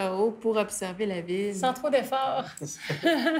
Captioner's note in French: rires